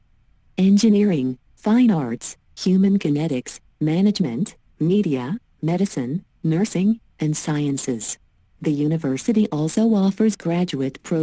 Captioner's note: computer text-to-speech